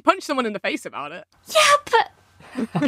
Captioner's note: splutters